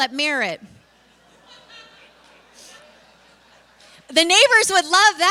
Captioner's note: laughter